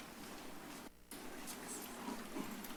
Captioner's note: footsteps